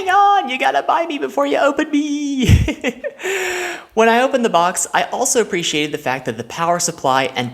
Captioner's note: laughs